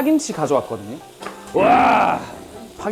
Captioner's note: roar